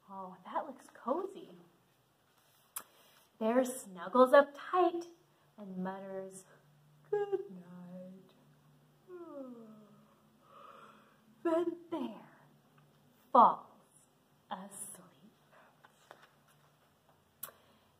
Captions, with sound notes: Oh, that looks cozy. Bear snuggles up tight and mutters, "Goodnight." (yawns) Then Bear falls asleep.